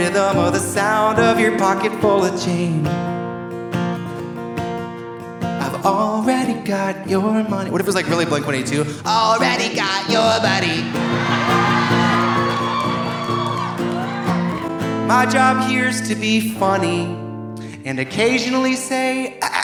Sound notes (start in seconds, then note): 10.7 audience laughing; 10.8 audience cheering